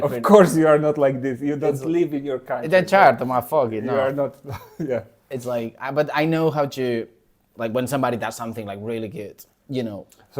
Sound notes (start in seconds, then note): 3.7 laughs